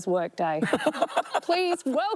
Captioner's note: laughs